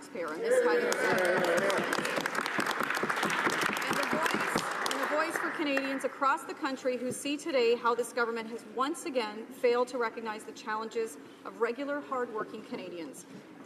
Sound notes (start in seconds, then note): 5.5 applause